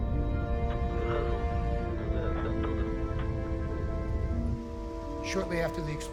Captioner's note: man speaking in foreign language